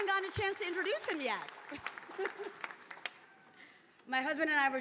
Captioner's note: laughs